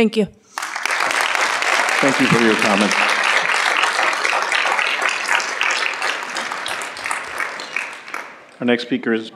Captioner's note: applause